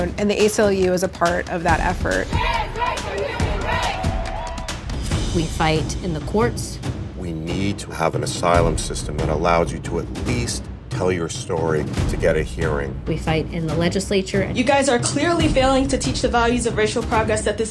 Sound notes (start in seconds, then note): 4.2 energetic music continues; 4.2 people cheering